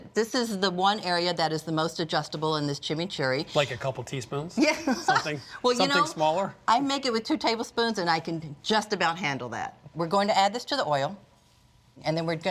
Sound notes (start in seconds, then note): 5.3 laughs